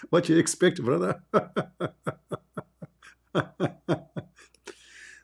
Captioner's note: Ketawa